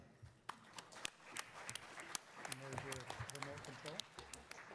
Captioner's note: attendees applauding